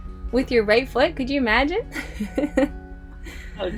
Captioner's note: laughs